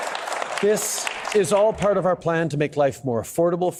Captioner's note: applause